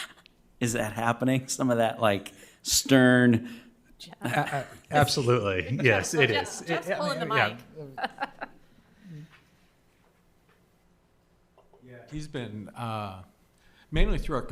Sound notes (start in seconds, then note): 7.3 members laughs